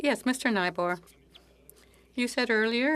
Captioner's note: speaking French